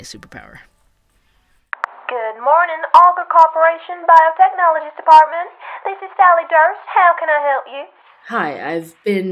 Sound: sound: phone gets picked up

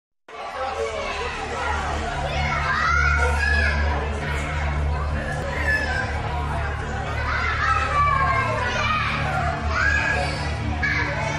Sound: children in classroom chatter

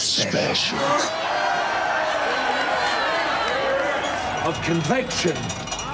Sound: crowd cheering

